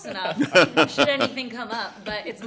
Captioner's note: laughter